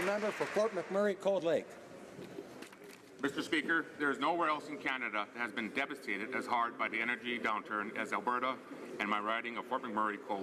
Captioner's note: applause